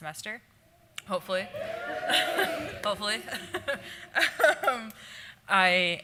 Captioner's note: audience Applause